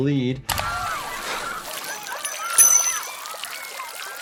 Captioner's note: water sputters